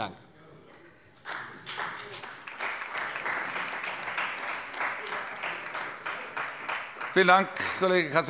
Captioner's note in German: Beifall bei der CDU und dem BÜNDNIS 90/DIE GRÜNEN